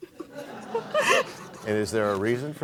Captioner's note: laughter